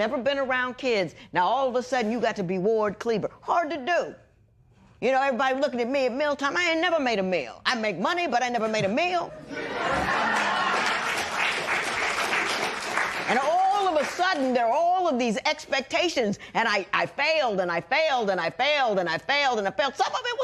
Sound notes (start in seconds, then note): 9.4 laughter; 11.8 cheers and applause